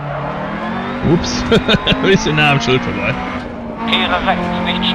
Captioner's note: laughs